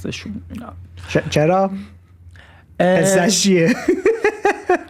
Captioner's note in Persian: خنده